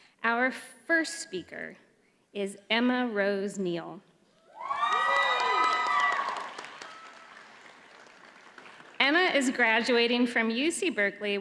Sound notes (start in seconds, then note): 4.4 audience cheers